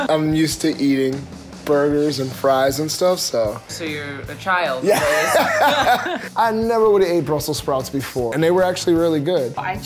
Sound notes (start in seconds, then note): 4.9 laughing